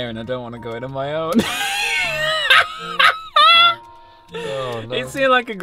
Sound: laughs

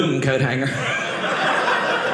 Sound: audience laughing

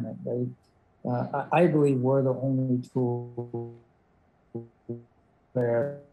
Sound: audio distortion

